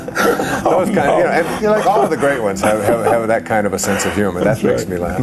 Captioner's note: laughter